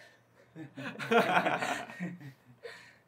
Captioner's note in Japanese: 笑う